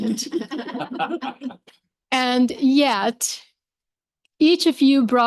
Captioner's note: laughter